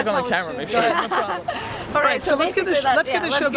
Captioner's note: laughs